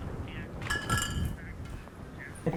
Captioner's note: bottles lightly jingling